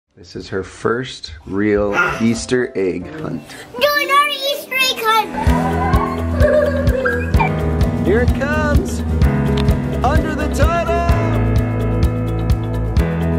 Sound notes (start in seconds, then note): 5.2 children squeal; 5.4 upbeat music